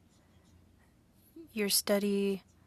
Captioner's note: speaking French